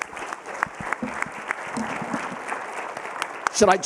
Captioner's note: applause